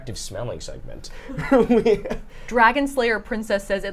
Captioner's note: chuckles